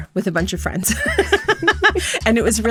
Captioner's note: laughter